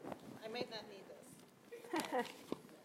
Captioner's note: laugh